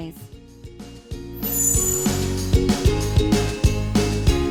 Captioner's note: upbeat music; ampersand chimes